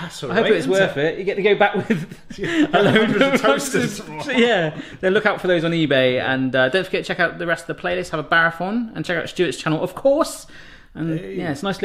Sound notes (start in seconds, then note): 1.8 both laugh